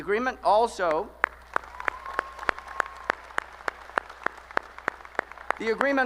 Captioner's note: applause